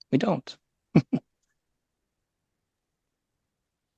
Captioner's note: chuckles